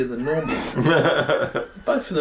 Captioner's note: laughter